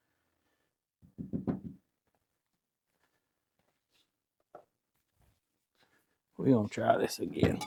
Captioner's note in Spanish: Metal Clanking